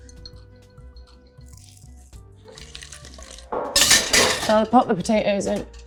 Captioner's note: easy listening music; potatoes rattling